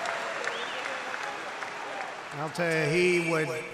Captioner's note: applause